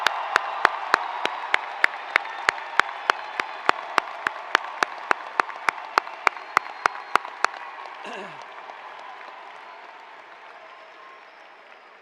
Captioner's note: cheers and applause